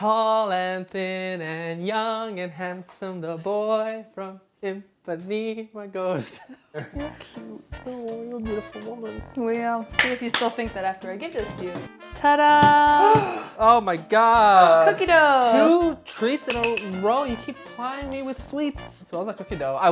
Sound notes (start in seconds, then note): 6.2 both laughing; 13.1 gasps